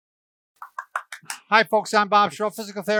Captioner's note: clapping